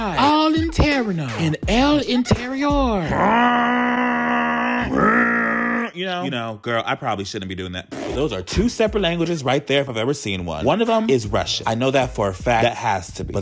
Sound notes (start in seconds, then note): 0.2 speaking in foreign language; 3.0 grunting; 7.8 lip-trilling